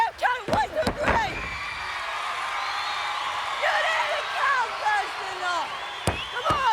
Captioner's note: applause